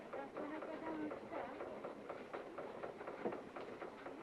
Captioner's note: street noise